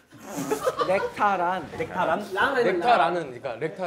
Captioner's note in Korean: 웃참 실패